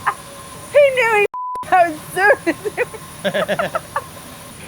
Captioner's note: beep; laughter